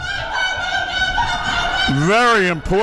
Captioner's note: player shouting